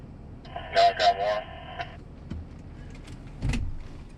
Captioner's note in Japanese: 無線の通信